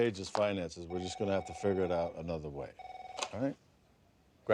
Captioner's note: phone ringing